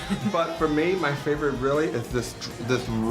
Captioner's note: laughter